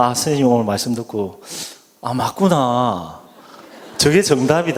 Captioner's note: audience Laughing